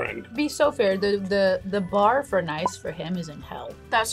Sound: none

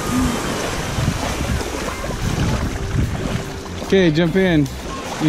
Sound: wind blowing

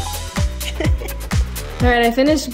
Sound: upbeat music; laughs

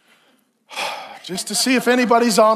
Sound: exhales sharply

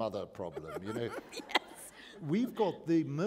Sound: laughter

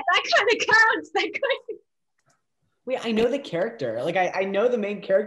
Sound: laughs

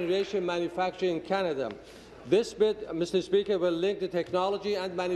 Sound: applause

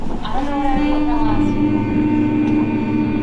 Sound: everybody hums

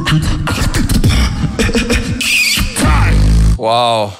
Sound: pf-3 cough snares-kiss my *esh again- liproll

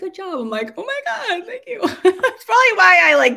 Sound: laughs

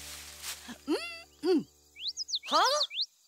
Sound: bird chirps

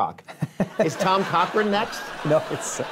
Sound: laughs

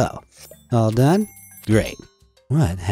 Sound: bell ringing

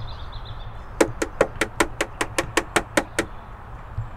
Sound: knocking

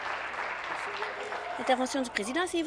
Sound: applause

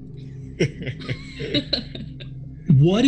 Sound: group laughs

